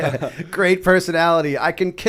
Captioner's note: laughter